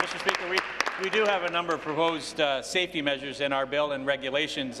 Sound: applause

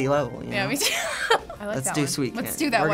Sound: laughs

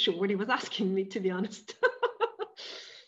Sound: laughing

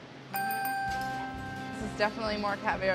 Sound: dings

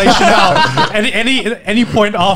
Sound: men laughing

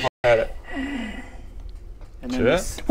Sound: chilling hiss

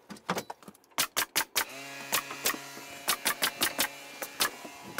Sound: nail gun shoots

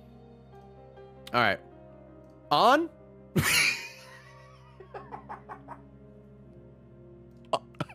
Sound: laughs

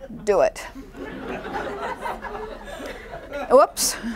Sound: laughing

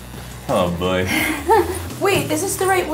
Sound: laughing

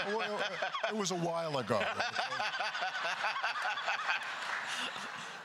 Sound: laughing; continued laughter

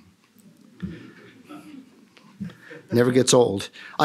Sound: laughter

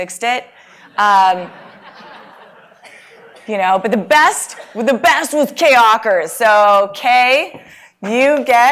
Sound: laugh

